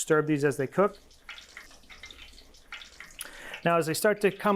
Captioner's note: oil popping